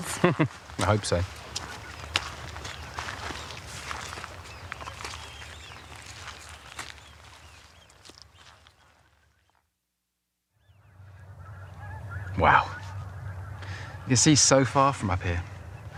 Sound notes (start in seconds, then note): 0.0 chuckles; 2.0 footsteps